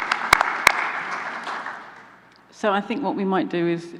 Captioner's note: applause